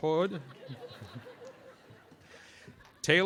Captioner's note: audience laughing